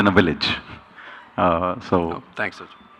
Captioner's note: chuckles